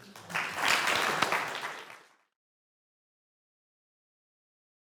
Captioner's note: audience clapping